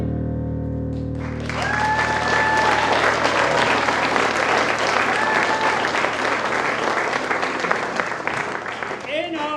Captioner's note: applause